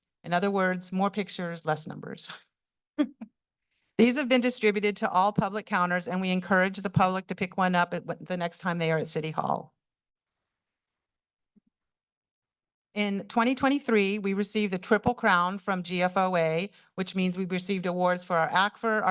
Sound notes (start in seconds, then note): 3.0 chuckles; 9.8 pause